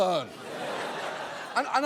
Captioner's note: audience laughs